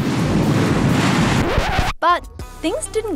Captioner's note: record scratches